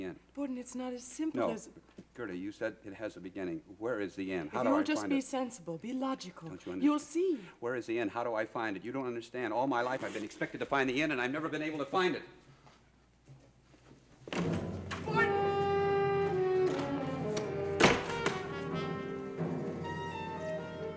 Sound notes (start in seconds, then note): 15.0 dramatic music; 17.6 door slams